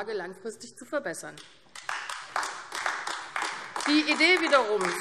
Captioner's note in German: Beifall AfD